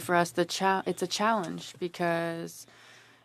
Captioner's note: speaking French